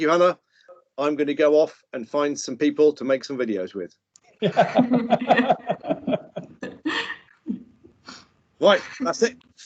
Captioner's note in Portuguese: risos